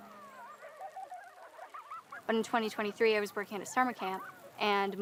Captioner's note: kids laughing and playing